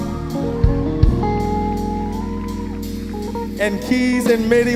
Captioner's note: audience cheering and applauding